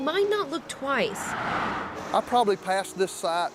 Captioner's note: cars passing